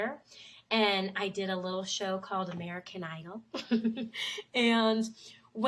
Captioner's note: laughs